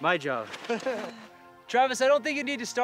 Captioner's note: chuckles